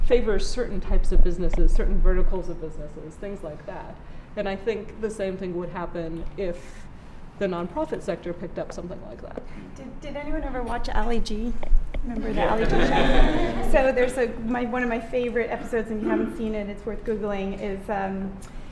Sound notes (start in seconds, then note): 12.3 laughter and "yeah, yeah"